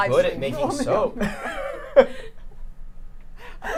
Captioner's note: laughs